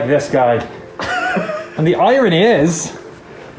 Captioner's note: chuckles